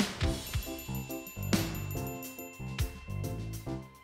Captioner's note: bright music; text chiming